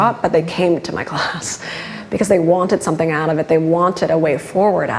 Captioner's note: laughs